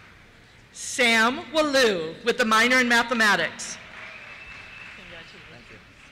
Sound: cheers

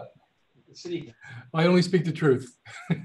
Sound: laughs

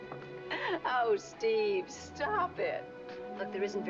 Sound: laughing

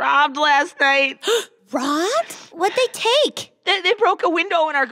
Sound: gasp

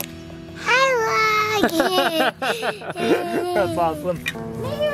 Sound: laughs

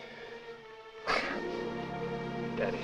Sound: dying gasp

